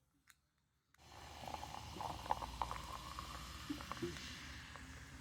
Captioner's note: loud fizzing